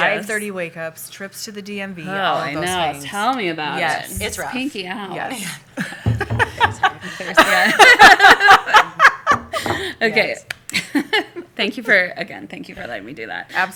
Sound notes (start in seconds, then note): 8.5 laughter